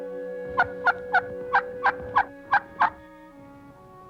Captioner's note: turkey sound